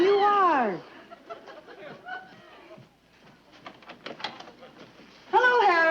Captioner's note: audience chuckling